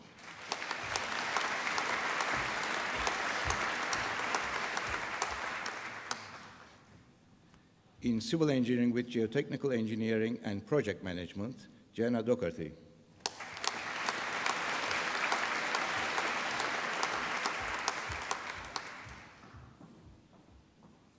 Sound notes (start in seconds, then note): 0.0 applause; 13.2 applause